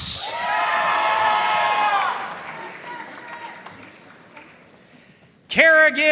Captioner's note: audience cheering and applauding